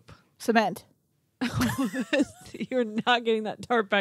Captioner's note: laughing